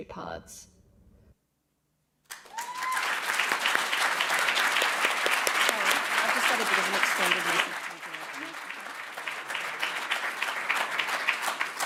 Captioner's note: applause